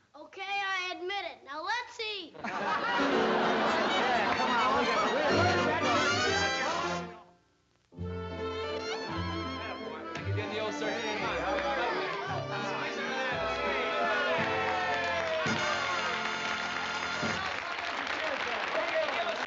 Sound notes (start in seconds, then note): 15.5 applause